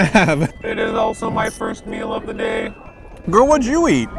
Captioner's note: robot voice